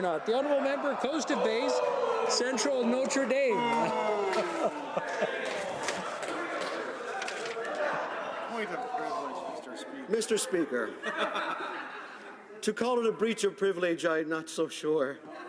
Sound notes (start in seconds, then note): 4.3 laughter